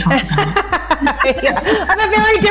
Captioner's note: laughing